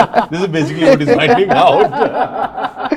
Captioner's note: laughter